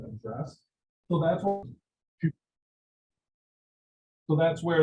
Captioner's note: audio drop